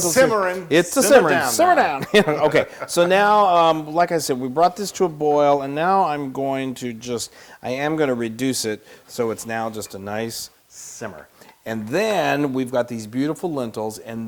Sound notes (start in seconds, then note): 0.9 laugh